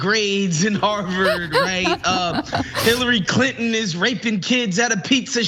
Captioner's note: laugh